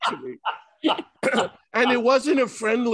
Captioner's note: Martin laughing